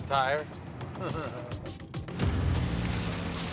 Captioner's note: laughs